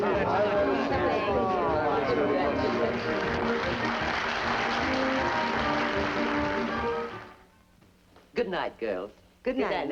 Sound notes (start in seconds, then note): 2.5 applause